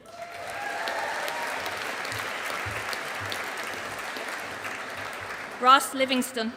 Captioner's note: audience applauding